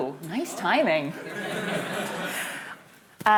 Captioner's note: laughter